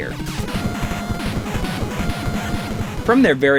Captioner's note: game audio